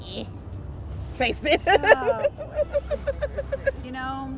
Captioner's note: laughs